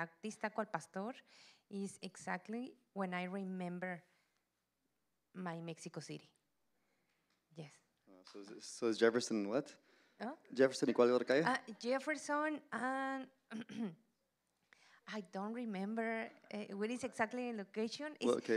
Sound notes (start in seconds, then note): 10.8 Spanish language